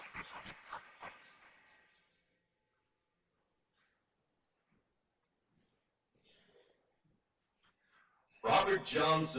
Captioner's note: silence